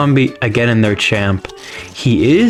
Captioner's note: inhales Oxygen